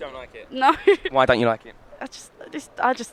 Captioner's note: laughs